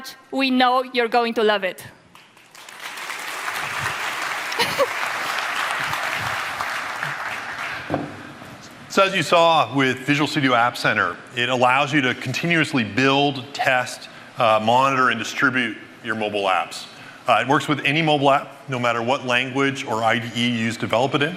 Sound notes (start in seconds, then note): 2.1 applause